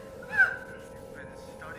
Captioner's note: woman screams